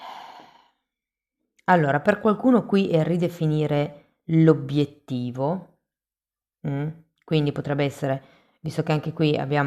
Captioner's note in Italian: sospiri